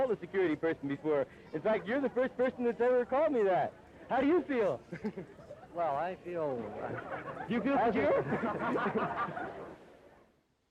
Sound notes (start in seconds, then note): 5.7 laughs; 9.5 all laughing